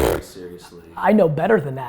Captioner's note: Gary blows raspberry